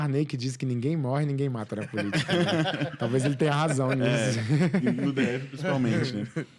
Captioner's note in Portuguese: risadas